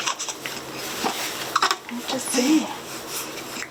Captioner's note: baby cooing